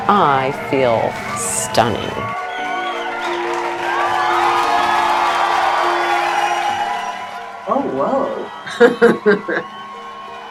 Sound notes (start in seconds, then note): 3.1 loud applause and cheering; 8.6 laughing